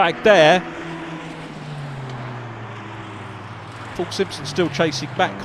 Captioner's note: car engines revving